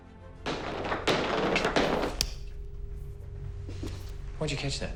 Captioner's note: ball rattling